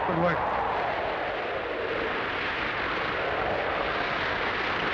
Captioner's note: wind howling